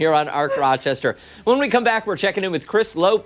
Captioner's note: laughter